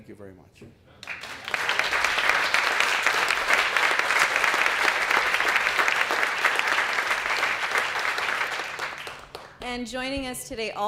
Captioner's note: applause